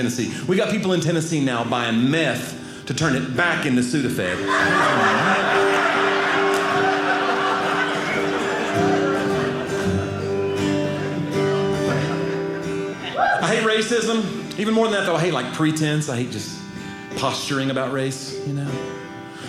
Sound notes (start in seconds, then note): 6.4 audience laughing; 9.0 guitar playing